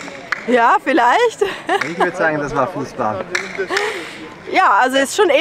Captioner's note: laughs